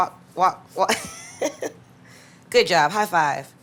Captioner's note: chuckles